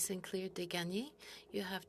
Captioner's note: speaking French